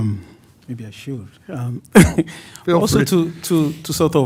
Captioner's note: laughs